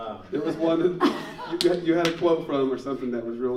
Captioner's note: laughing